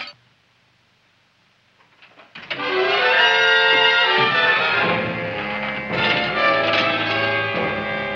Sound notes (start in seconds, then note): 1.8 doorknob rattling; 3.6 dramatic music